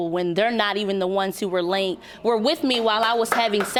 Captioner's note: audience applauding